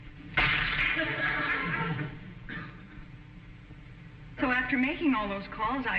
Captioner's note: cracking; audience chuckling